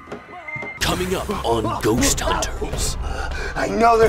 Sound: voice-over

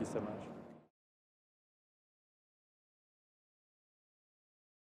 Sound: no speech

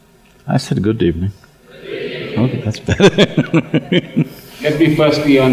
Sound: Sadhguru laughs

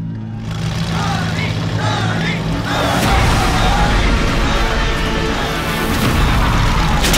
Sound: crowd Cheering

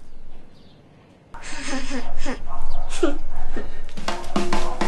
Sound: child giggles mischievously

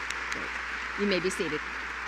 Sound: applause

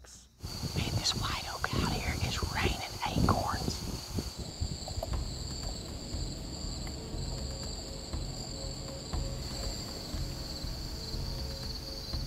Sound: whispering

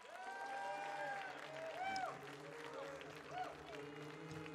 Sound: audience cheering

